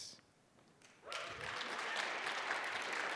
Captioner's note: applause